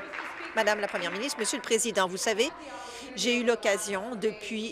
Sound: applause

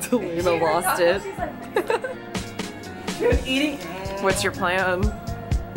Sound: laughing

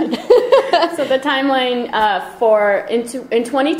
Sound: voiceover

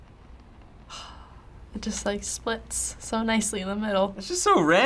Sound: sighing

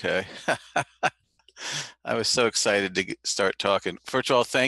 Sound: laugh

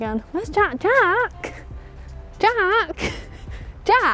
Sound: laughs

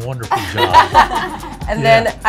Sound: all laugh

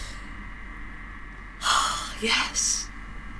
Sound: sighs

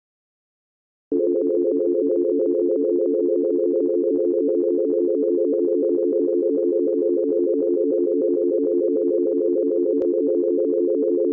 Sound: sound of dial tone

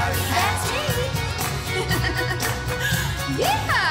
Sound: giggling

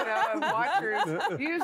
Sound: all laughing

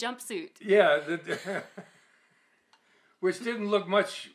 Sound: laughs

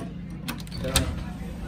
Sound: door open

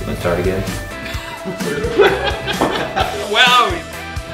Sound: laughing

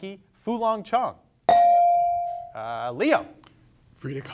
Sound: bell dings

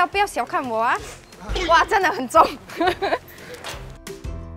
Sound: in mandarin

